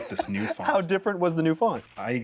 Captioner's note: laughs